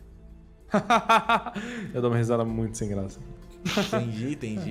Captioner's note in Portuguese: risos